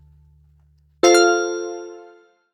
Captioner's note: bell chimes